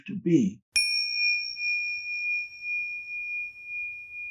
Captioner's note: chime